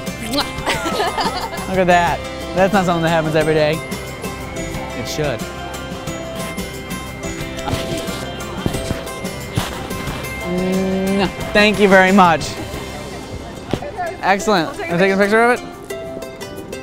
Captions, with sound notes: - Muah! (laughter) - Look at that. That's not somethin' that happens every day. It should. (cheerful music) (pretend kissing noise) - Thank you very much. Excellent, take a picture of it?